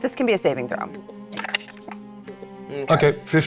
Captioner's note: dice rattling